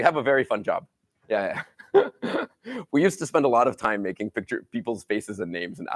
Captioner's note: laughs